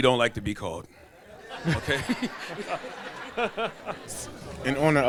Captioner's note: laughs